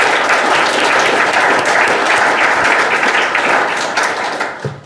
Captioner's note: audience applause